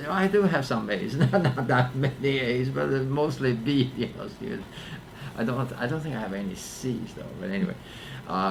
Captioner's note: laughs